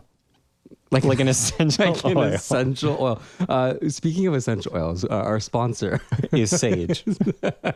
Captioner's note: laugh